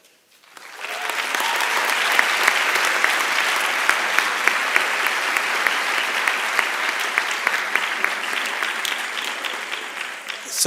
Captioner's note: applause and Cheering